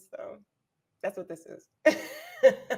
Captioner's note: laughing